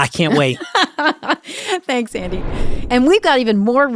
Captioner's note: laughs